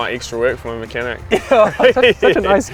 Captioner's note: laughs